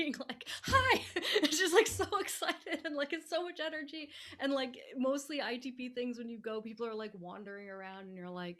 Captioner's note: laughing